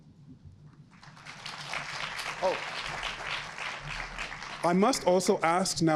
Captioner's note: audience applauds